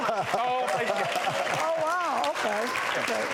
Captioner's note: applauding